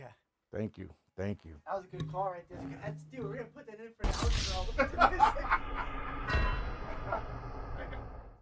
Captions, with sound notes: Thank you, thank you. That was a good call right there. That's two, we're gonna put that in for the outro. (laughing)